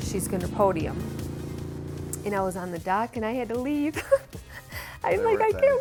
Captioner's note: laughing